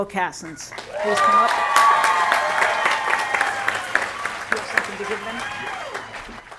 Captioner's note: applause